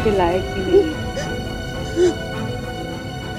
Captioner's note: Meher crying